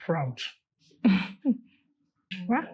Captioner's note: chuckles